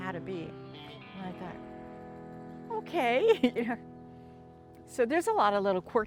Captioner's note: laughs